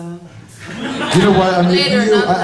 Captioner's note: laughter